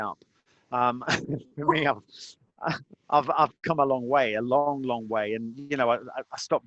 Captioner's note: laughing